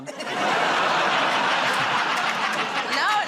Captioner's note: laughter